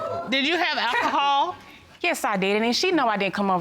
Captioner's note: scoffs